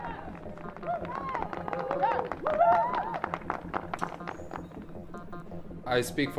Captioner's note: cheering slowly wanes; distant cheering